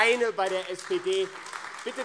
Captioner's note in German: Beifall AfD